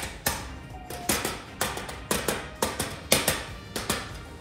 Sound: metal clanging

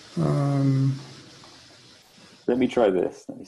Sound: exclaims

